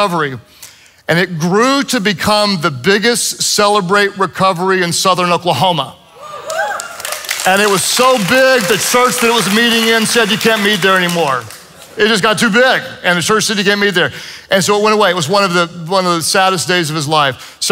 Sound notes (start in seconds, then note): 6.2 congregation cheers and applauds